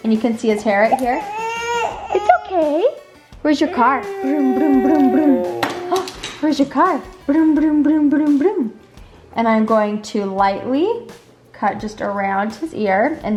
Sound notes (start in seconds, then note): 1.6 whines; 4.7 imitates car noises; 7.6 imitates car noises